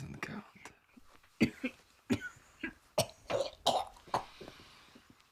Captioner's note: Zora coughs